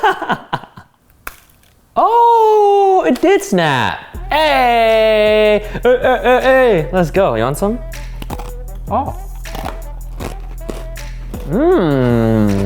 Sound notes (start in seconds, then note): 0.0 laughs; 9.3 crunch; 10.2 crunching continues